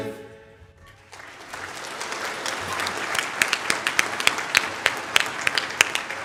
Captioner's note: applause